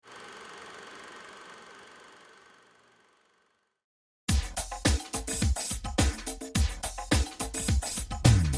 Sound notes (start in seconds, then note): 0.1 projector whirring; 4.3 upbeat R&B music